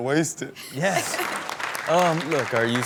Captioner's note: audience clap